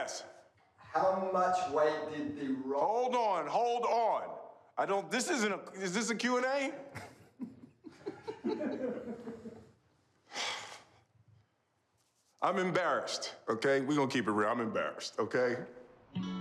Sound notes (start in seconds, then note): 6.9 chuckles; 10.3 sighs